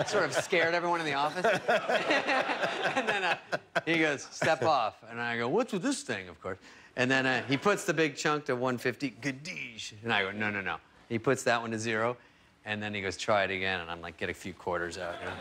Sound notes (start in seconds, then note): 5.2 laughter